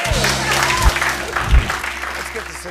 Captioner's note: cheers and applause